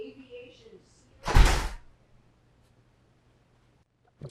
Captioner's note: door closes